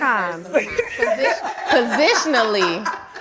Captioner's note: audience laughing